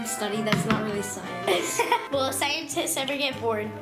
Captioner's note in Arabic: يضحك